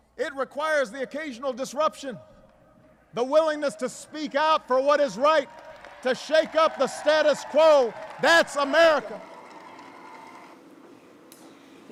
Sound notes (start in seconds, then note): 4.1 applause